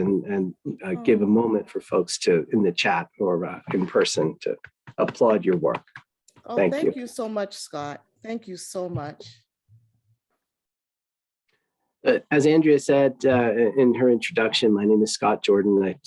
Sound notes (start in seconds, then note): 6.4 applauding